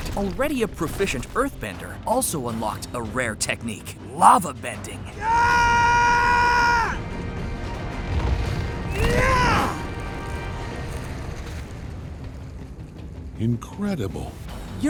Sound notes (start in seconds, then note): 5.1 screaming; 8.9 grunting